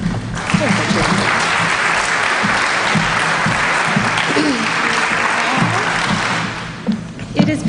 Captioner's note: applause